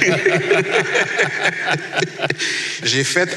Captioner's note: laughs